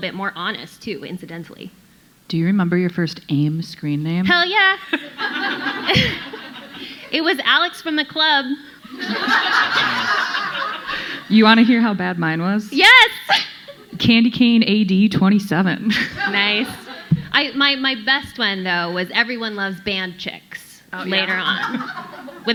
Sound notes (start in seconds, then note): 4.8 audience laughing; 8.9 audience laughing; 12.8 laughs